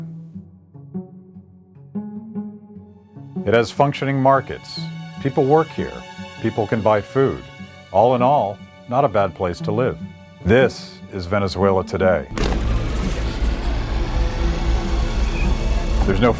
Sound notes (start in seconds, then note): 12.3 dramatic music; 12.3 small explosion